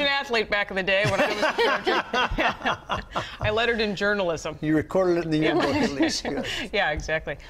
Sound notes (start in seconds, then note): 1.0 laughter; 5.5 laughter